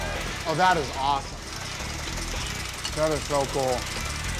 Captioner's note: none